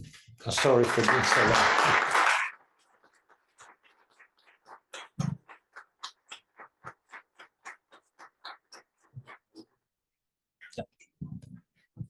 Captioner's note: applause